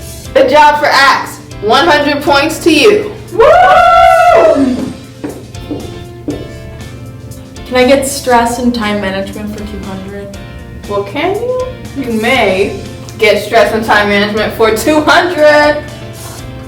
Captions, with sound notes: - Good job for Axe. 100 points to you. (cheering) - Can I get Stress and Time Management for 200? - Well, can you? You may get Stress and Time Management for 200.